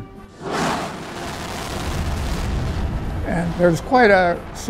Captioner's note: rocket engine roaring